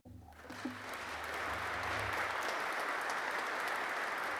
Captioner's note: audience clapping